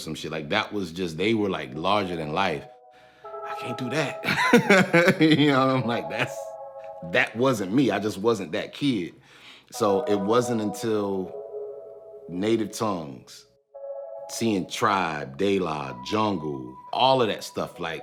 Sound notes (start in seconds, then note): 4.2 laughing